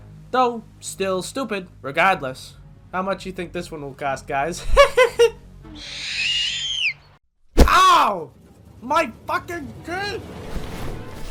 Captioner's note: chuckles